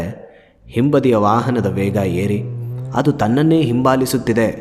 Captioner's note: speeding sounds